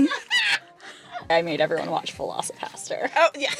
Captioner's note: laughter